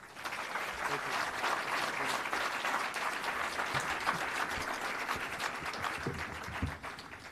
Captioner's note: applause